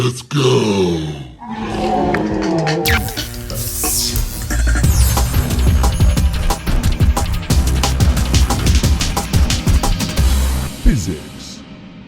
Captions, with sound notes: Let's Go! [roars] [Intro Music] Physics!